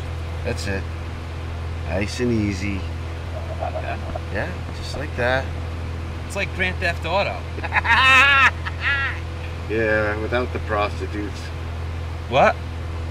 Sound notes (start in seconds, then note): 7.6 laughs